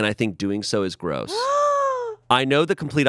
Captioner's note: gasps